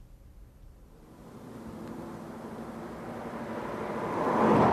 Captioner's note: traffic whooshing